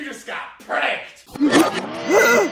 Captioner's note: shocked, confused noises